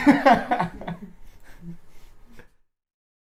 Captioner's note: laughs